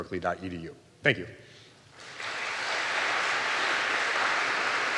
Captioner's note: audience applauding